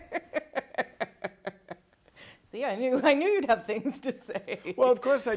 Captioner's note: laughter